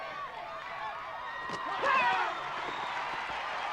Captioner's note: crowd cheering